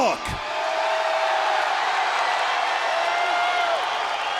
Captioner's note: crowd cheering